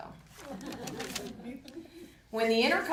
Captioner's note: audience laughing